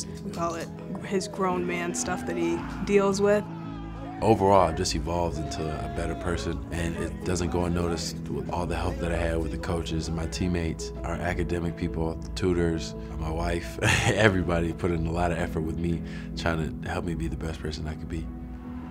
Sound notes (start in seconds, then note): 13.8 laughs; 18.6 hopeful music